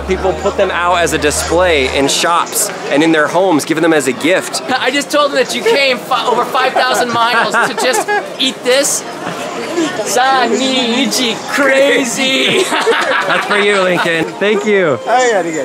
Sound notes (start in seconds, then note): 10.0 speaking Japanese